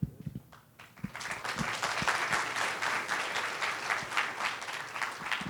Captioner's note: audience clapping